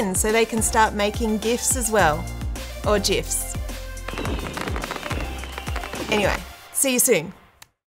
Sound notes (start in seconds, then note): 4.0 logo pops; 7.2 hands clapping